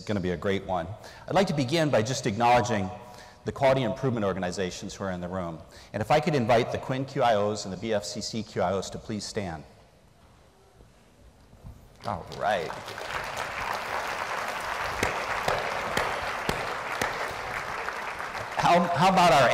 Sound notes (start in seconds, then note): 15.4 applause